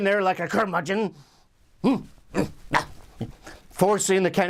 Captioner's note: angry grunts